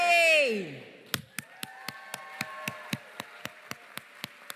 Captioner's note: cheering, applause